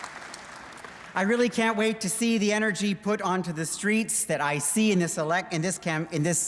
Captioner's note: applause